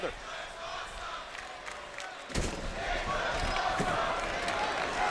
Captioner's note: audience cheering